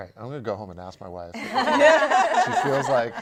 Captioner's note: laughter